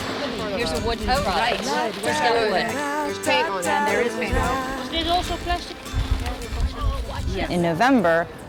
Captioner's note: volunteers chatter over singing